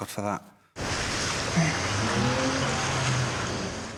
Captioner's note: waves crashing